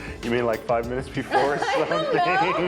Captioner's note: both laughing